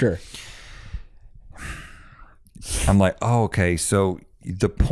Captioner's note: sighs